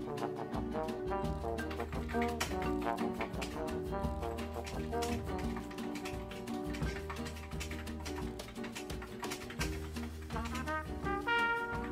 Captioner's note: sound of Typing